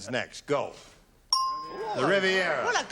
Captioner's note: ding